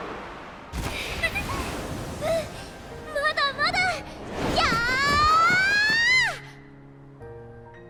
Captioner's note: laugh